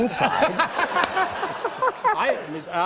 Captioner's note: laughs